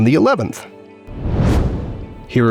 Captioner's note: whoosh